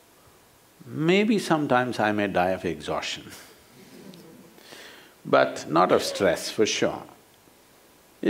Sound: laughs

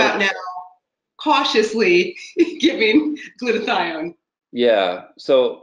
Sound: laughs

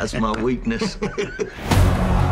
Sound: laughs

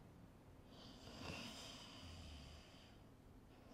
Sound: snoring

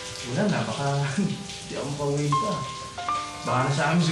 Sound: chuckles

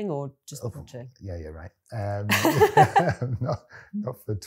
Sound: laughs

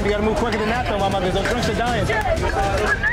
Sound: loud chatter

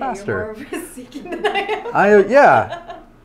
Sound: laughs

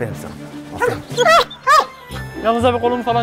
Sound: barking sound

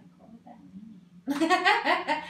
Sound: laughs

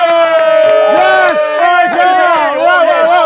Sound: sound of cheering

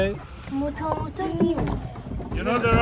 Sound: speaKing foreign language

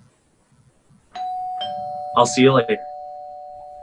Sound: door bell ringing

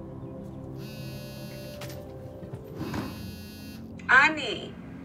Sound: cell phone buzzing

